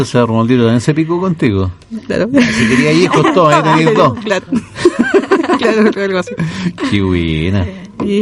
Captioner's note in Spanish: risas